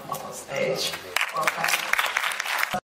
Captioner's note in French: applaudissements